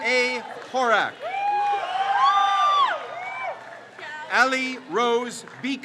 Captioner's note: crowd cheers